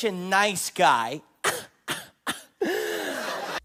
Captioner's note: laughs at his own joke as remains oblivious as hell